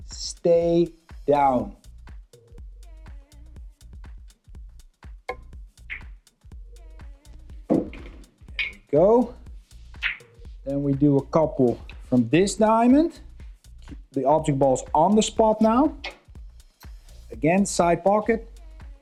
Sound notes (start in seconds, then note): 2.2 upbeat music; 5.4 billiard balls clanging